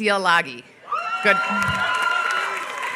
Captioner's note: applause